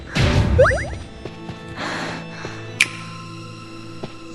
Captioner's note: Cipher popping sound